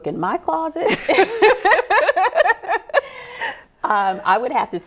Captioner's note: both laugh